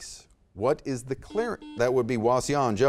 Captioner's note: buzzer beeps